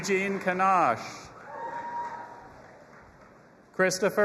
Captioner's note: audience applauding and cheering